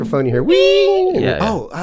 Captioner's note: squeaking